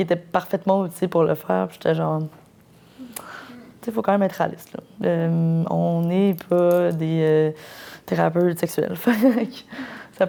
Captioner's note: laughs